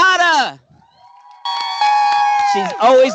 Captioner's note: cheering